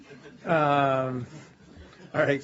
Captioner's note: laughter